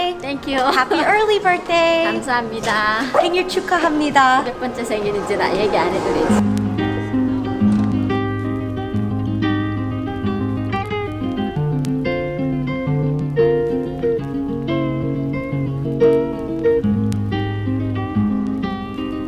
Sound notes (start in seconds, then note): 2.3 speaks foreign language; 7.2 bright guitar music